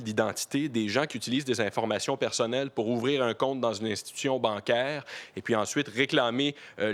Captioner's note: speaking French